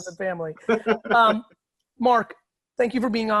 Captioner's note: laughing